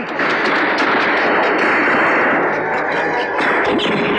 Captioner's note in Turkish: Silah sesleri